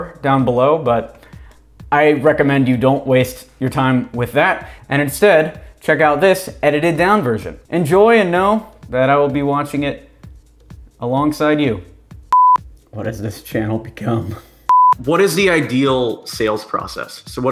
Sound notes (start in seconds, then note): 12.3 beep; 14.7 beep